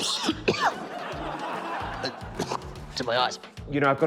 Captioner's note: coughs